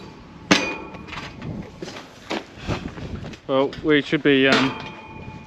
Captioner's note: hammer banging